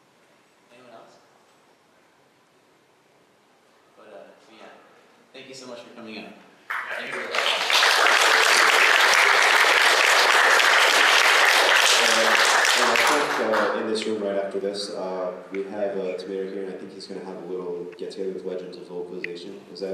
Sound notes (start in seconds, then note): 6.6 applause